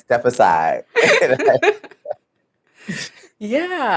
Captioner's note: laughs